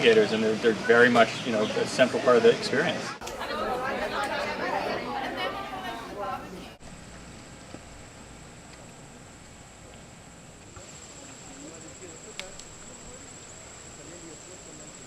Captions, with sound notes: And, they are very much a central part of the experience. ( background chatter ) ( limpkin running ) ( limplin breaking open snail shell )